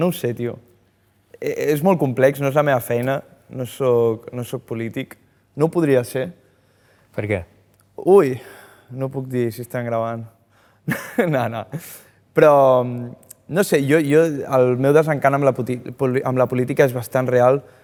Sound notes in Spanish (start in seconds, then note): 11.1 ríe